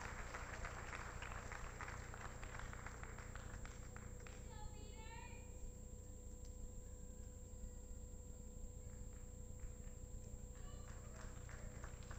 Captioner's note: applause